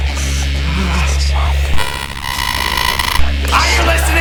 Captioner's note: Larry groaning; ghostly whispering